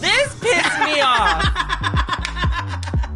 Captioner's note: laughs